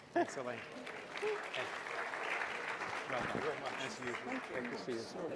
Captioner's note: applause